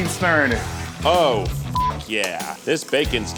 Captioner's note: beep